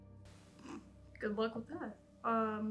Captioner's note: scoffs